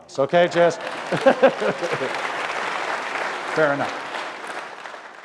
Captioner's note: applause